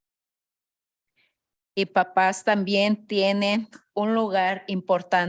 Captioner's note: speaking in Spanish